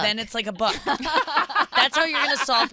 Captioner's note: laughing